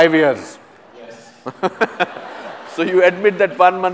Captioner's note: laughter